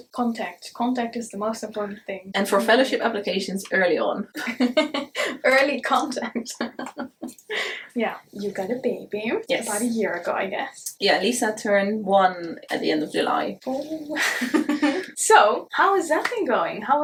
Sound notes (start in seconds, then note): 4.4 both laugh; 6.3 laughs